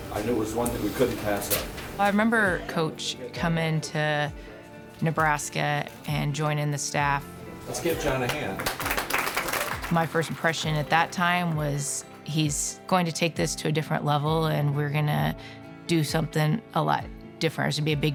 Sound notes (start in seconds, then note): 7.8 people clapping